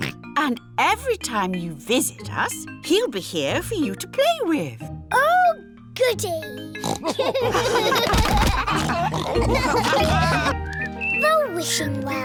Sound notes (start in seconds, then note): 6.8 oinks; 7.0 all laugh